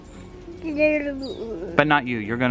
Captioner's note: silly noises